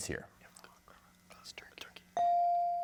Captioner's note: team whispering